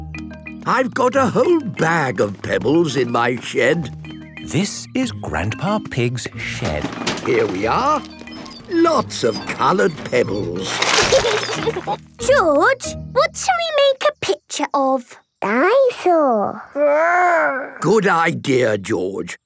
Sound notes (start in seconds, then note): 6.2 bangs and rattles; 10.9 laughing